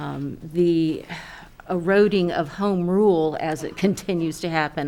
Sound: sighs

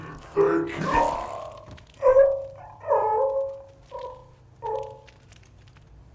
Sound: sounds of dying idk

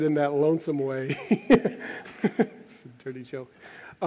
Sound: laughs

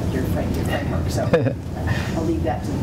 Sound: laugh

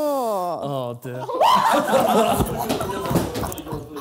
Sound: cackling

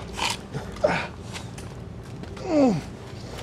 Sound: grunts in pain

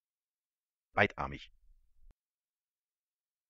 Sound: fast Pronunciation

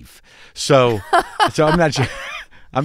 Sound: laughter

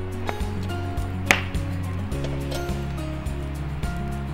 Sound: fire crackling

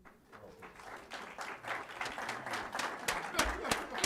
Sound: applause

